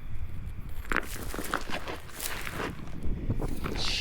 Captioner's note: insects chittering; rocks clattering; wind rustling